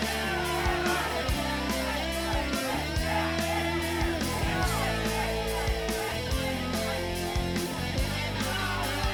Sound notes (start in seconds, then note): 2.0 crowd cheering continues; 2.0 fun rock music continues